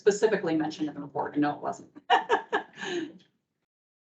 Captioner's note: laughs